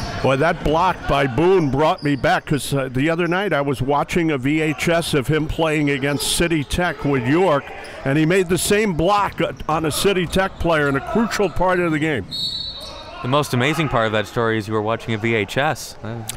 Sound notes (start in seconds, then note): 12.2 whistle blows